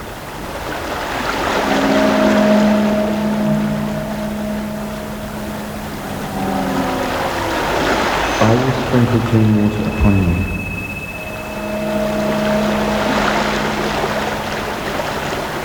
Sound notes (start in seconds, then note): 0.6 running water continues; 1.3 distorted noises; 10.9 running water, distorted noises